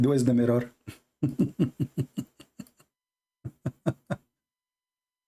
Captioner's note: Ketawa